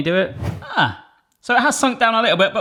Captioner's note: whooshing